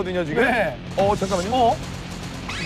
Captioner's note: shoot-out continues without a break